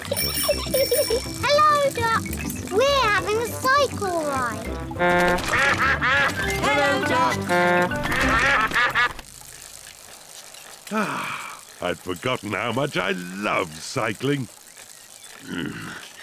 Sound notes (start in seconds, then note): 0.0 giggles; 4.6 toots horn; 5.0 all quack; 10.8 sighs happily; 15.4 grunts